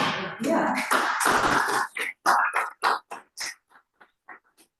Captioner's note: applause